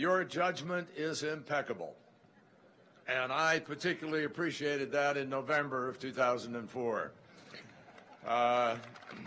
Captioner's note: laughter and applause